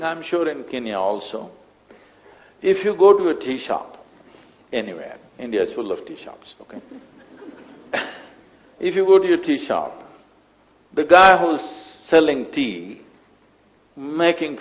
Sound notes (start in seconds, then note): 6.8 laughs